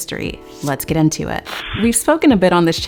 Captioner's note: static buzzes